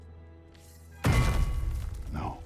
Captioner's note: Mjölnir drops